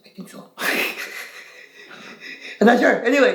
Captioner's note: laughing